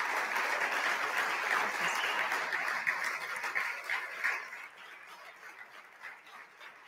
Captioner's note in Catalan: aplaudiments